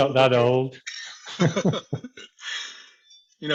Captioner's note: laughter